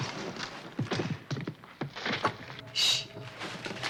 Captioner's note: loud rustling